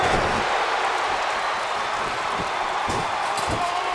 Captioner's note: audience cheers